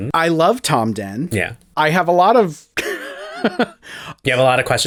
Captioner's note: laugh